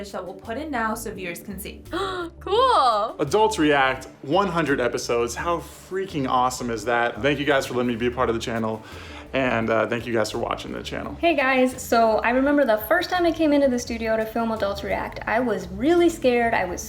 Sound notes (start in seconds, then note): 2.1 gasps